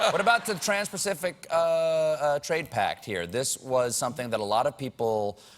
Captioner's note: laughter